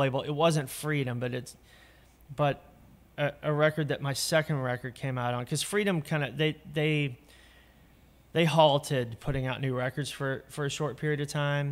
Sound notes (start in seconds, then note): none